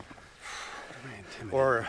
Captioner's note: exhales sharply